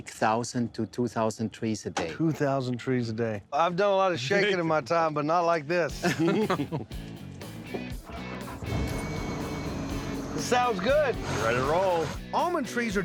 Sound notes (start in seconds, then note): 5.9 chuckling; 8.0 engine starting